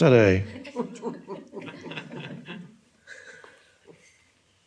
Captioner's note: audience laughing